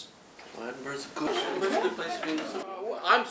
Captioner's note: hubbub